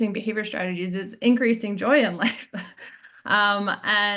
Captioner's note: chuckles